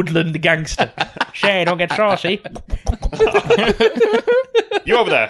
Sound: makes popping sounds

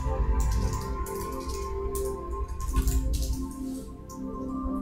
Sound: keys clacking

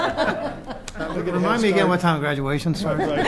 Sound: laughter

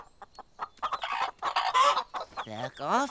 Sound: clucking

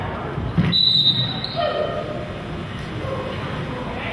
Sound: whistle blows

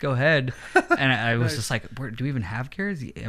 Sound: chuckles

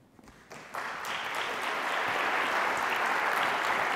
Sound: applause

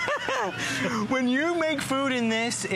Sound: laughter

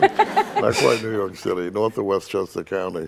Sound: all laughing

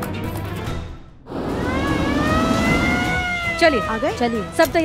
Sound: police car approaching

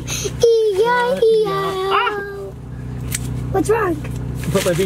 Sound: yells

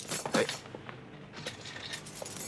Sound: none

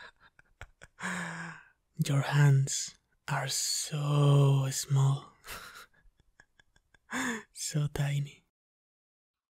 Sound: happy sigh; laugh

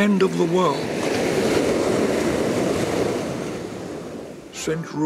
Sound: waves crash

